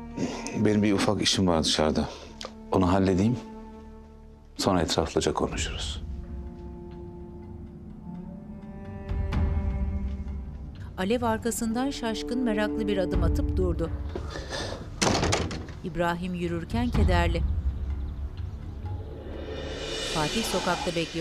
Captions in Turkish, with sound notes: Benim bir ufak işim var dışarıda, onu halledeyim... ...sonra etraflıca konuşuruz. (Müzik - Duygusal) (Kapı kapanma sesi)